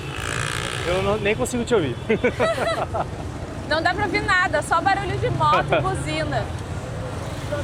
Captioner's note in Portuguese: risadas